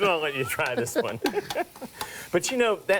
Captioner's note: both laugh